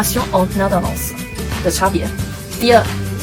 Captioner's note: in french